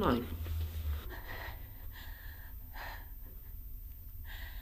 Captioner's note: heavy breathing